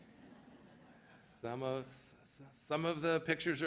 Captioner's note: laughter